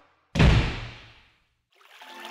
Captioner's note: door slams; water flowing